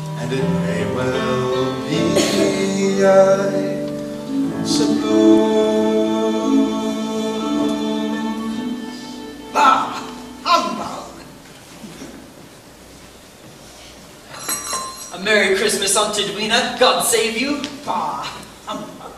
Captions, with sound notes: And it may well be I suppose Bah humbug! (door chimes) A Merry Christmas, Aunt Edwina! God save you! Bah! Humbug!